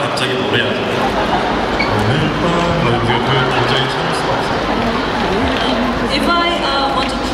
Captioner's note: audience laughing; speaking Korean